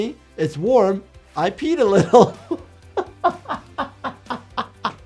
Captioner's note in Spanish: risas